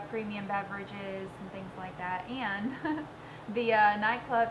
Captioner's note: laughs